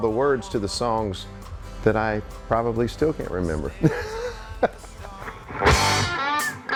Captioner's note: laughs; upbeat electric guitar music